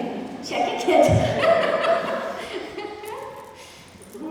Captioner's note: laughter